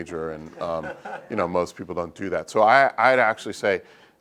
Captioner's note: laugh